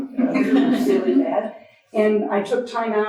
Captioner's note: audience laughing